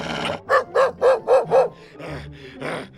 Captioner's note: barking